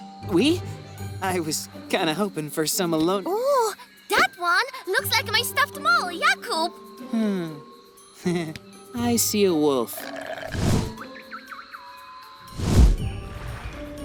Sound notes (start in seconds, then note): 8.2 chuckles